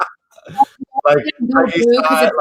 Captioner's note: laughs